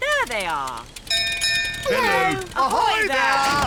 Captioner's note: bell rings; peppa and george giggle